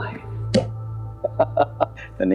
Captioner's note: laughing